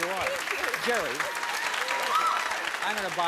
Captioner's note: cheering and applause